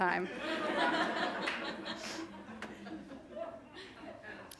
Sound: audience laughing

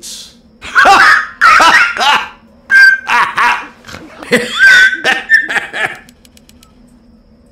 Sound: Engineer came out of nowhere and laughs like a maniac

